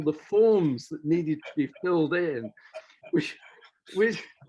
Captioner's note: laughs